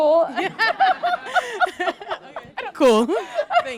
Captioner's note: laughter